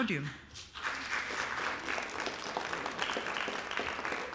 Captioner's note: applause